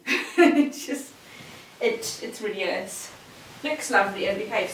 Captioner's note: chuckles